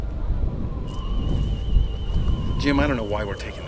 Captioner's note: scanners hum